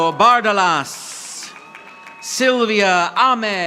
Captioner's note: audience applauding